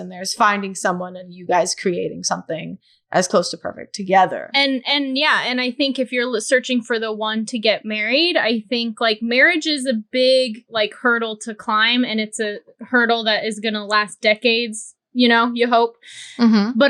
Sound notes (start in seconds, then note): none